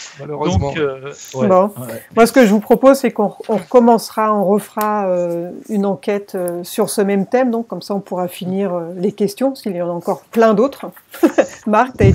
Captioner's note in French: rires